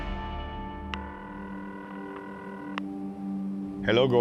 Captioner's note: phone ringing